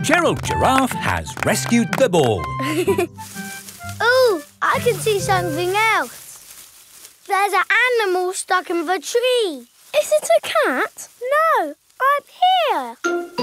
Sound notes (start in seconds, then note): 2.9 leaves rustling